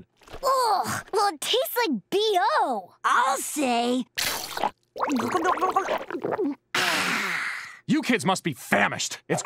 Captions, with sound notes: Ugh! Well taste like BO! I'll say! [gurgling] [sighing] You kids must be famished. It's grub time!